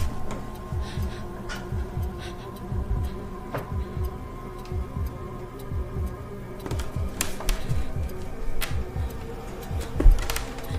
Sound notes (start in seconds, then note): 0.0 clock ticks; 0.0 eerie atmospheric noise